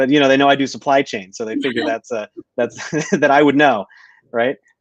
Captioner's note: laughter